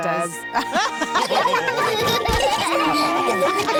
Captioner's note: all laugh